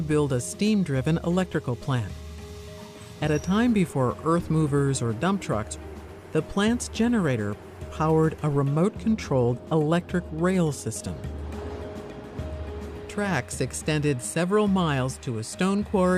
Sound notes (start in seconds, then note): 11.3 rail cars move quietly